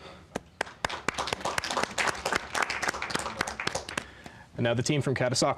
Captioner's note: applause